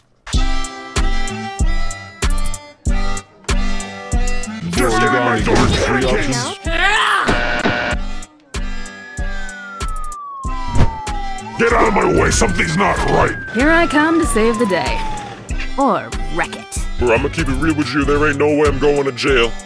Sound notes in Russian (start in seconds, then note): 8.5 звуки полицейской сирены